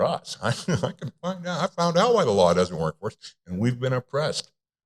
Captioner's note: chuckles